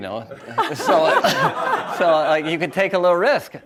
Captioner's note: audience laughs